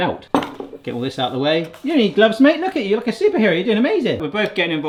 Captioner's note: none